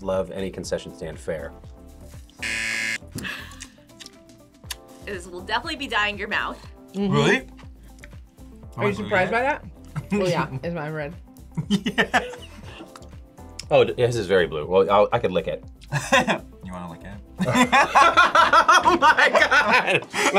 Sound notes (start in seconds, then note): 2.4 buzzer; 3.5 laughs; 9.9 laughs; 11.6 laughs; 17.4 both laugh; 17.4 laughs